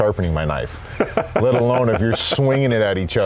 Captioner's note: laughs